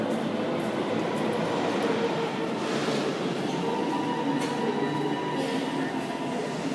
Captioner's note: arrival of train at the station; opening doors